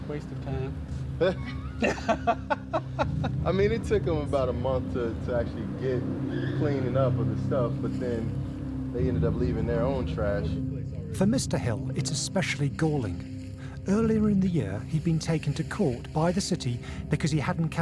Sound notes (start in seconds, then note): 1.3 both laughing